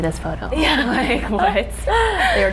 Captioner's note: laughing